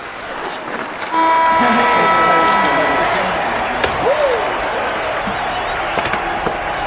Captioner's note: horn blows; everyone cheers